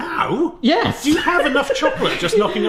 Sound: laughs

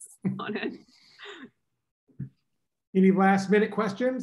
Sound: laughter

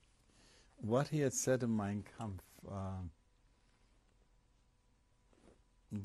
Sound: pauses for 3 seconds

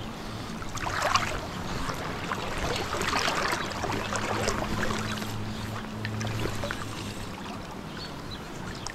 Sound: water splashing

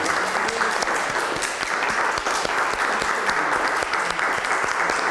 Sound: group applauds

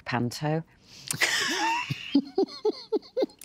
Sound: both laugh

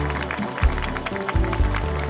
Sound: applause

